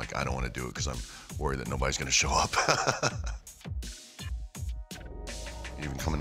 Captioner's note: laugh